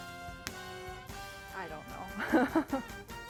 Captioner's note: laughs